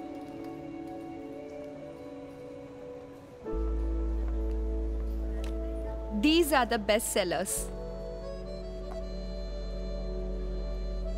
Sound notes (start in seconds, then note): none